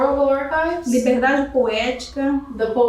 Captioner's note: speaking portuguese